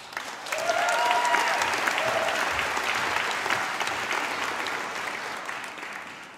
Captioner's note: applause